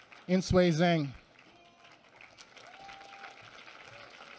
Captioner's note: applause